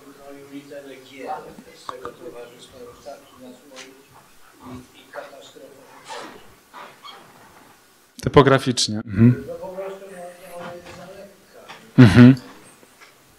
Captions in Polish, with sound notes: Tutaj literę "G" z tego towarzystwa... [szum] Topograficznie, yhm. Po prostu ona jest tam lekka.